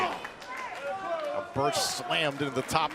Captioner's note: crowd cheering